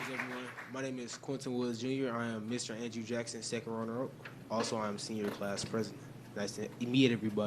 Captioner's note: applause